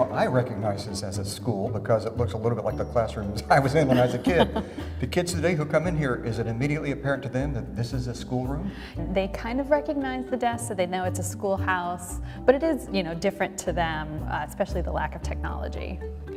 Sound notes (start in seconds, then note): 3.8 light laughter